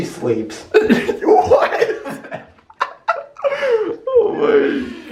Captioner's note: lols